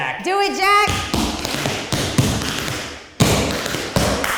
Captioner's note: tapping